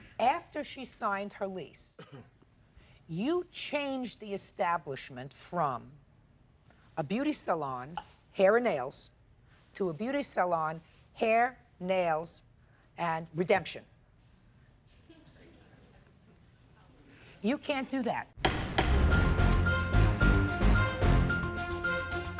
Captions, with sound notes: After she signed her lease, you changed the establishment from a beauty salon, hair and nails, to a beauty salon, hair, nails and redemption. You can't do that. (gavel banging) (upbeat music)